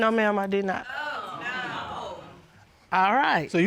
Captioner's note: audience gasps